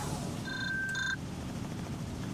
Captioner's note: phone ringing